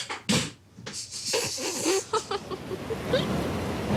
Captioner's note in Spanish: Risas